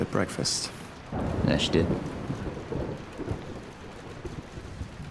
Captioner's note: thunder rumbling